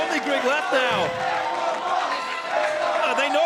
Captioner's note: Crowd chanting "Echo Fox"